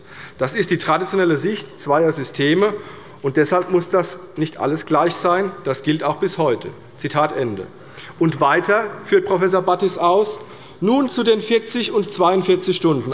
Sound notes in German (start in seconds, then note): none